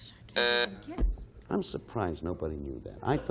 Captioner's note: buzzer sounding off